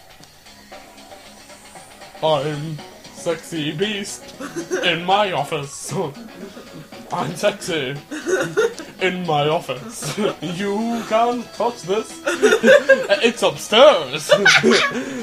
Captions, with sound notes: - I'm sexy beast, in my office... - I'm sexy... - [LAUGHTER] - In my office... - You can't touch this... - [LAUGHTER] - ...it's upstairs! - [HARD LAUGHTER]